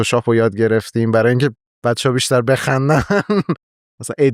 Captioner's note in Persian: خنده